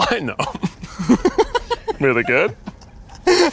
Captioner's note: laughing